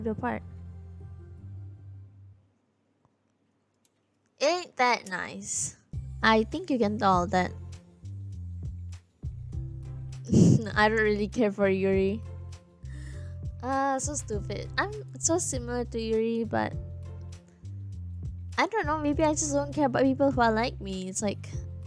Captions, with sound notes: Ain't that nice? I think you can tell that- *laughs* I don't really care for Yuri Ahhh, so stupid I'm so similar to Yuri but I don't know, maybe I just don't care about people who are like me, it's like